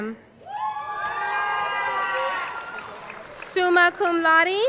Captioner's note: crowd cheering